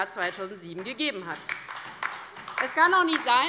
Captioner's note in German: Beifall bei der LINKEN